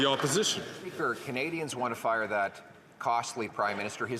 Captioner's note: some Applause